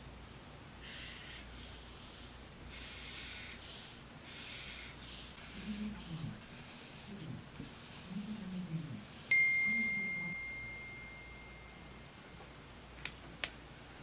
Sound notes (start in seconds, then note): 9.3 phone dings